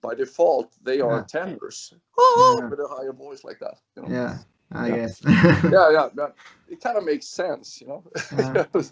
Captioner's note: laughs